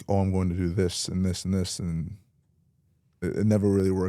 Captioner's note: none